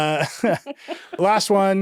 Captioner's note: chuckling